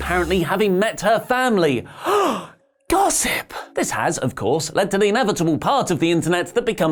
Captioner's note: gasp